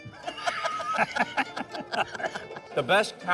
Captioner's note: both laughing